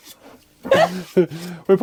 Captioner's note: laughing